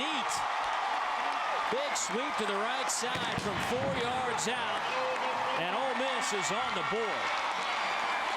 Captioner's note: crowd noise